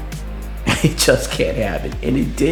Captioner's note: narrator chuckles